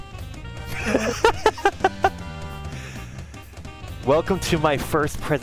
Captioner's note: laughing